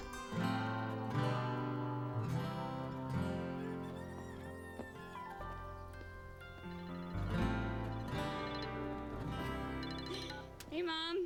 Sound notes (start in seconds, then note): 3.3 rooster crowing; 6.4 phone rings